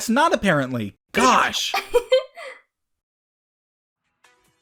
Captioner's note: giggles